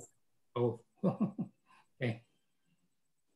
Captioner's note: chuckling